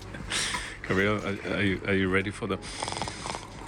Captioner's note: laughter; snores